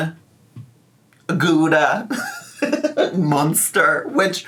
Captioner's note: laughs